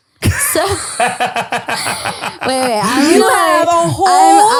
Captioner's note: laughs loudly